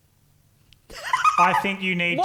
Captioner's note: laughing